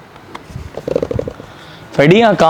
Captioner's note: welding helmet sound